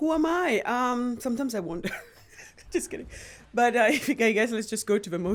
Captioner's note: chuckles